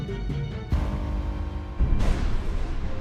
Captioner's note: thunderclap